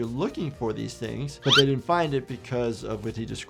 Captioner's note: item whistling